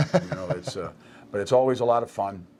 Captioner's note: laughing